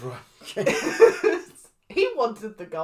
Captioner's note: Dandy giving up noises